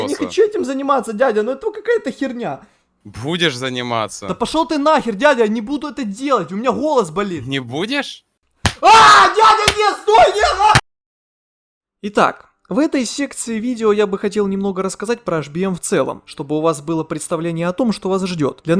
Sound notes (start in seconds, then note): 8.8 screams